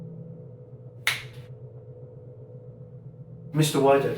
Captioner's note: finger snapping